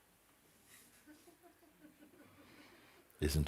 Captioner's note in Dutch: zacht gelach in de sangha